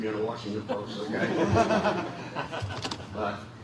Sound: laughter

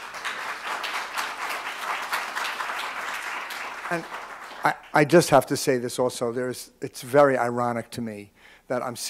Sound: applause

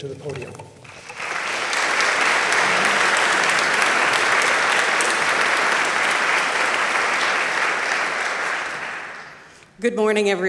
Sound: applause

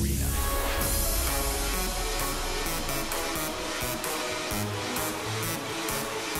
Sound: cheering

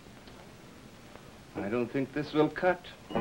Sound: film reel clicks

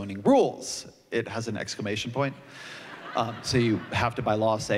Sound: laughter

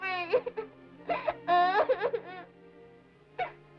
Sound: crying

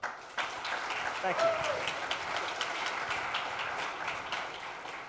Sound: audience clapping

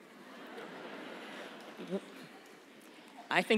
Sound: laughter

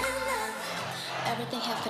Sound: fanchant

